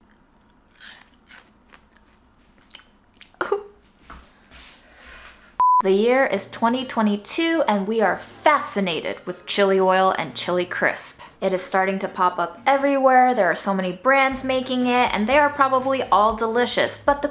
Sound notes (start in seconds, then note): 0.0 crunching; 3.3 coughing; 5.6 beep